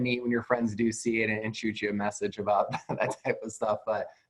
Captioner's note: chuckles